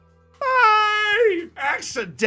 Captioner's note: cheers